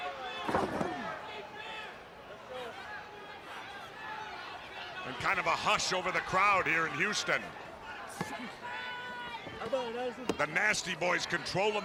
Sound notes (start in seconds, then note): 0.0 crowd chatter; 5.8 crowd chatter